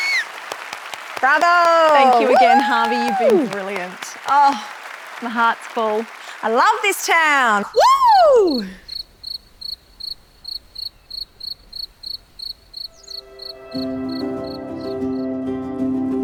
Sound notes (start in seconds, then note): 0.0 whistle whoo; 10.0 crickets chirping; 13.6 upbeat music